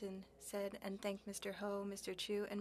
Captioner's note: speaking french